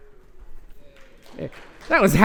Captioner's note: applause